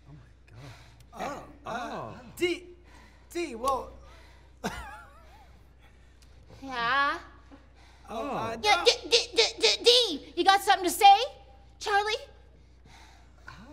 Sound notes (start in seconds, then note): 4.6 laughs; 8.5 mocking